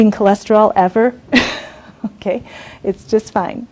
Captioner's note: laughs